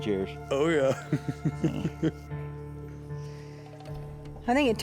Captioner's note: laughing